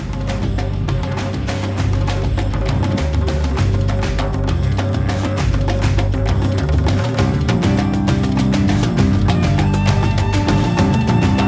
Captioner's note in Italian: Applauso